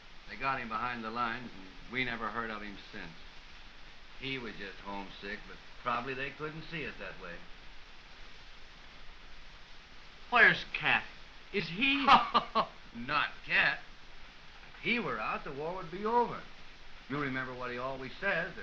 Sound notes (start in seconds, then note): 11.6 laughs